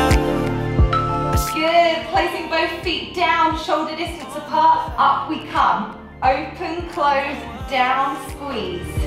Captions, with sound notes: (timer beeping) Placing both feet down, shoulder distance apart, up we come, open, close, down, squeeze.